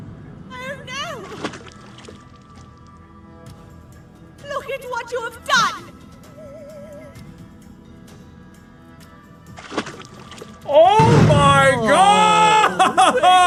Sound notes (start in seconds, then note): 9.5 small splash sound effect as baby bird now mutated flies out